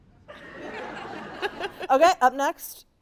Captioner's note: audience laughing